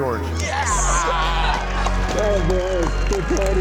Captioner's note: crowd claps